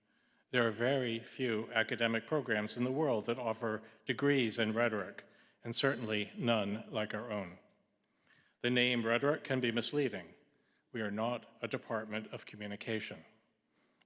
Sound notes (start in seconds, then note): none